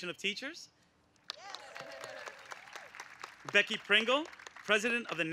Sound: applause

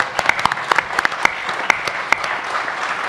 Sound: applause

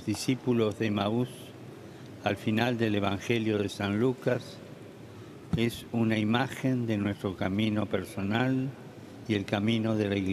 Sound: speaking Alternate Language

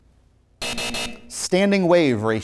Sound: buzzer

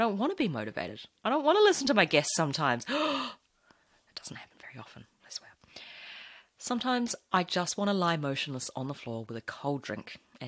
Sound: gasps

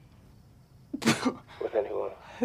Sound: snickers

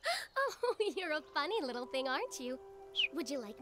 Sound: chirps

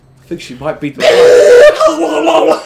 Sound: explosive barfing

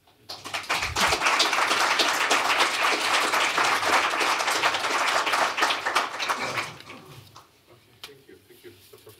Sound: applause

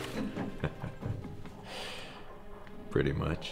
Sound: chuckling

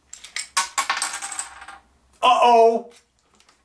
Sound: clattering

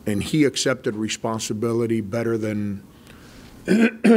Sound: clears throat

